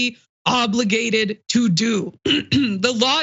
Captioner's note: cough